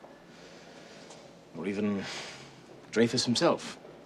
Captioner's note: sighs